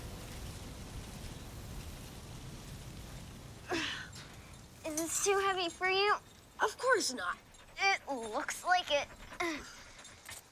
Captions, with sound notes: (Jimmy groaning) - Is this too heavy for you? - Of course not. - It looks like it.